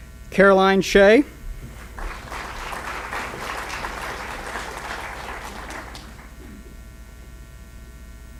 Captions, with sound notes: Caroline Shay. (applause)